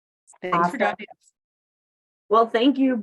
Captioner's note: audio distortion